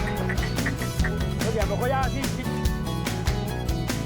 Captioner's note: speaks in spanish